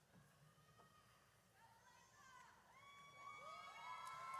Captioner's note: audience cheers